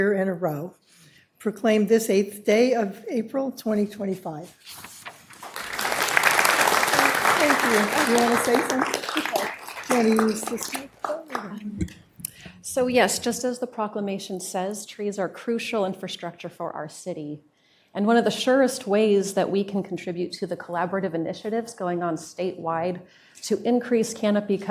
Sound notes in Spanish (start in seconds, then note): 9.5 aplauso